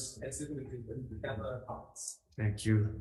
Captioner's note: man speaking faintly off mic